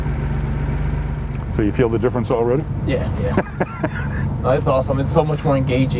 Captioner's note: laughs